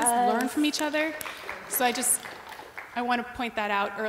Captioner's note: applause